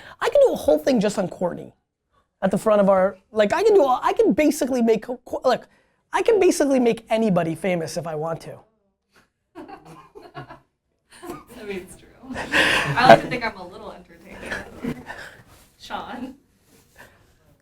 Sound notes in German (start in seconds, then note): 9.1 Indien lacht